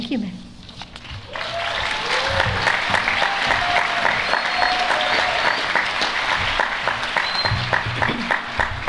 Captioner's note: applause